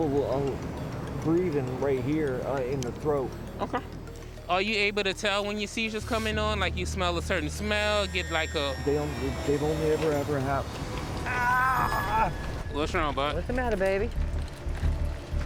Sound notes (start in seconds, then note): 11.0 groans